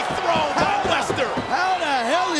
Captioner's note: fan pounding; crowd roaring